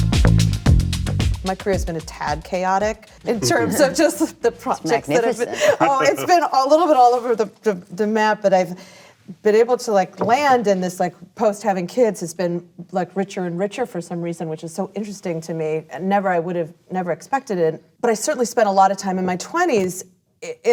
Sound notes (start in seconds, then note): 3.4 laughter